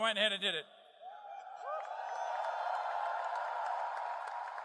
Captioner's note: crowd